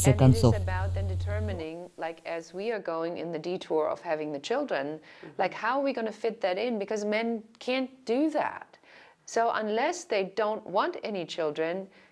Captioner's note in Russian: Разговаривают на английском